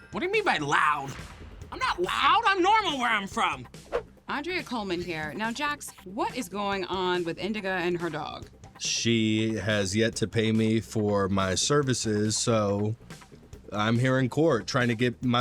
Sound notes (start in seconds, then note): 3.8 air swish